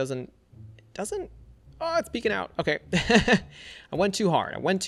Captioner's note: laughs